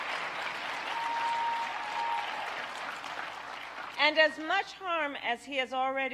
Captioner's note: applause